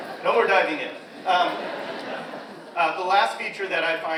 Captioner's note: audience laughs